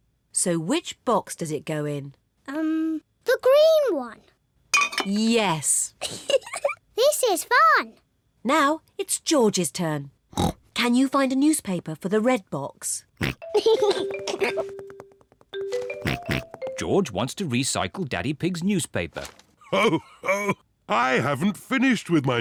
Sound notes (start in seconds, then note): 6.0 giggles; 10.3 snorts; 13.2 snorts, giggles; 16.0 snorts; 19.7 laughs